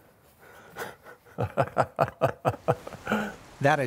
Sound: laughs

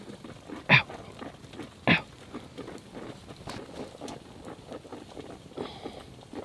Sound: coffee bubbling; man groaning

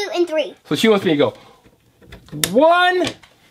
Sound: voiceover

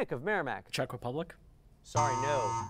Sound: error buzzer

